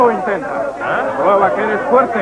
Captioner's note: all clamoring